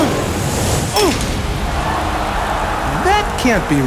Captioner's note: grunting; metal clanking